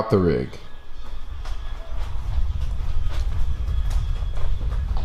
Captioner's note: footsteps